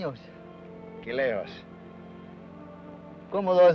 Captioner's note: Ben speaks foreign language